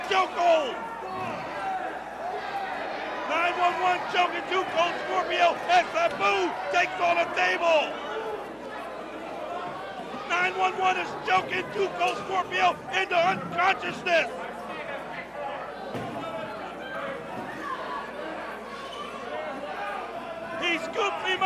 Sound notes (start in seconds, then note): 6.6 crowd cheering